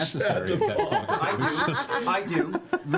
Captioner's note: laughs